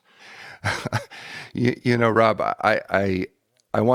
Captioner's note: chuckles